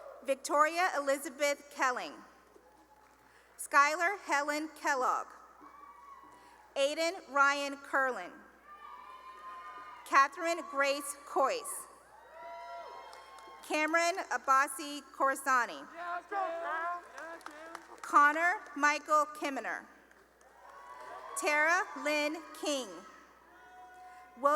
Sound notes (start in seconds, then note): 0.0 cheering; 2.1 cheering and applause; 5.6 cheering; 8.6 cheering; 12.0 cheering; 16.8 cheering; 20.4 cheering and applause; 23.1 cheering